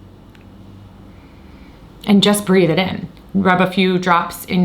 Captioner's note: inhales deeply